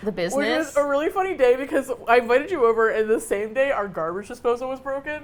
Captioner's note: laughing